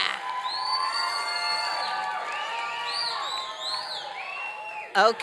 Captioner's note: applause and cheering